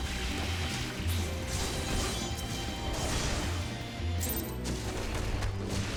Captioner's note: gunshots